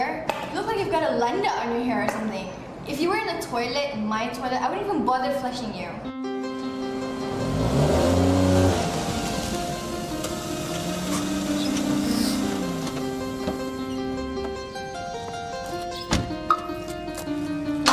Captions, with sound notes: You look like you've got a plunger on your hair or something. If you were in a toilet, my toilet, I wouldn't even bother flushing you. [dramatic piano music] [engine roaring] [car alarm beeps]